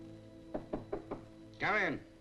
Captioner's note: knocking on door